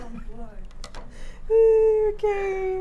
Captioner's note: laughing